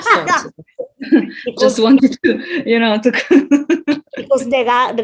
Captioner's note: both laugh